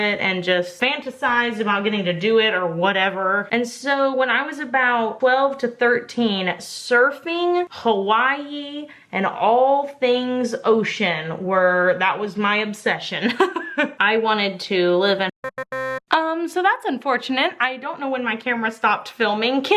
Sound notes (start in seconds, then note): 13.2 laughs; 15.4 buzzing